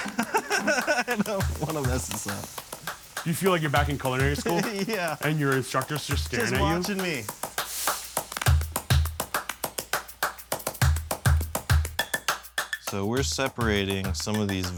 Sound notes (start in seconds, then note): 0.0 laughing; 3.3 laughs; 7.4 lively upbeat music